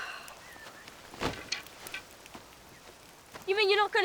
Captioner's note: Sky sighs